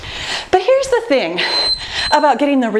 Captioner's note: timer beeping